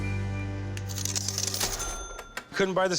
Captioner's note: coins clinking